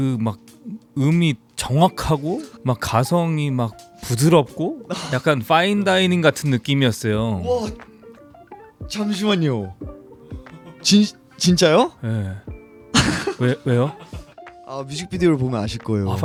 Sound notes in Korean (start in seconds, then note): 12.9 웃음